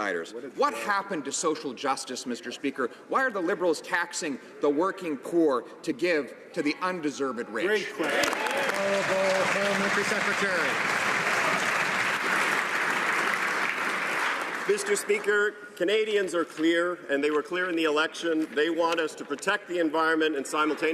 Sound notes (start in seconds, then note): 11.6 some Applause